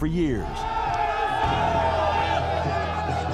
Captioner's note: crowd shouting